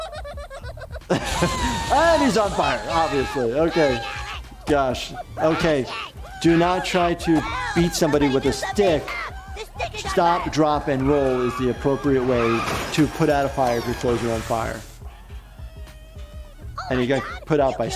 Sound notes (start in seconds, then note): 1.2 flames erupting; 3.7 characters screaming; 12.3 tires screeching